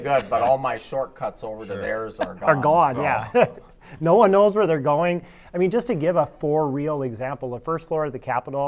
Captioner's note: laughter